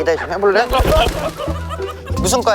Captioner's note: street fighting birds